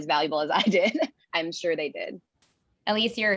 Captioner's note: laugh